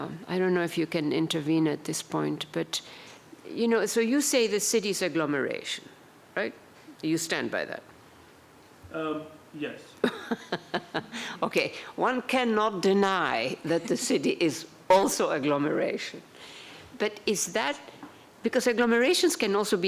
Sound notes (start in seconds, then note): 10.0 laughter